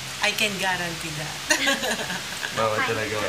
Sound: laughter

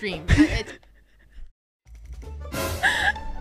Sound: giggles

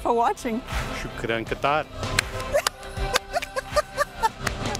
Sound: laughs

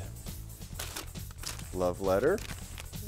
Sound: sound of rummaging through trash

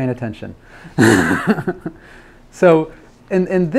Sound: laughs

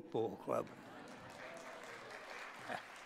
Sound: applause

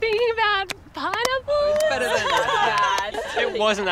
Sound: all laughing

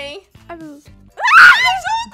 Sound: screams

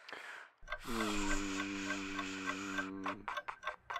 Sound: clock ticking sound

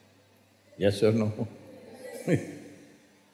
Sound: laughs

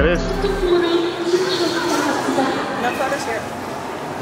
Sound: woman on speakers talking in foreign language

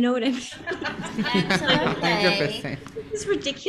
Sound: audience laughing

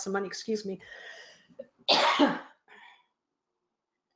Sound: sneezing

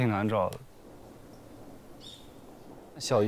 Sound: silence

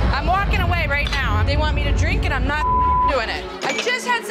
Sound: beep

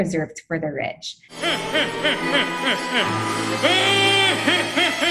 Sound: cartoon laughing

